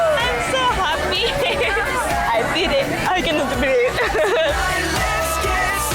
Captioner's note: laughs